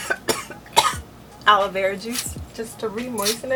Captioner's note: coughing & choking; spritz